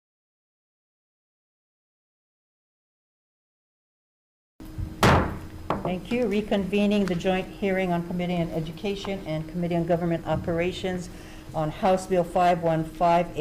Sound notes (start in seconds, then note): 5.0 gavel banging